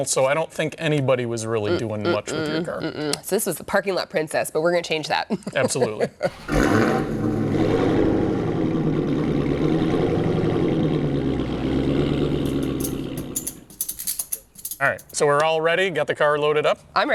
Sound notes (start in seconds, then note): 5.8 laughs; 6.3 engine revs